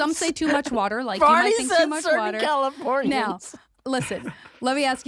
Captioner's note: laughing